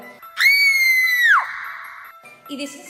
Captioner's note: screams in spanish